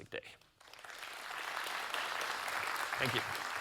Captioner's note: audience applauding